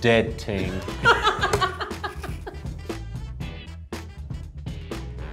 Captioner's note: laughs; upbeat music